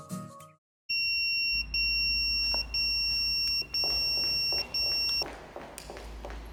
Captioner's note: pager beeping; footsteps